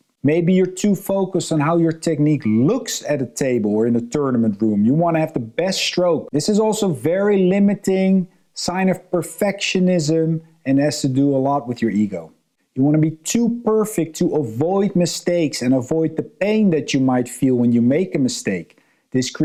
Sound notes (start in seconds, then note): none